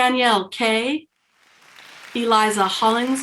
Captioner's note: people cheering